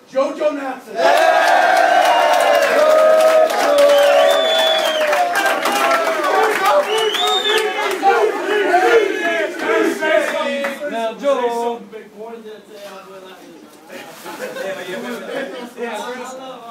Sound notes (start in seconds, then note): 0.9 cheers